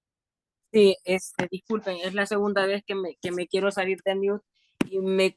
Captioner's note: speaking in Spanish